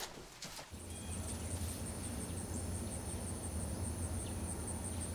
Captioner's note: insects chirping